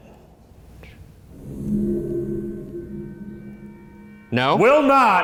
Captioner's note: faint voice shushes